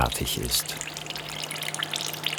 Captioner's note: splashing